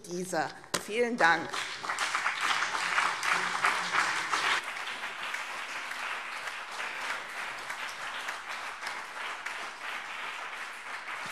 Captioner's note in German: Beifall BÜNDNIS 90/DIE GRÜNEN und CDU